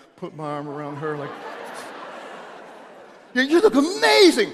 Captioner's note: audience laughing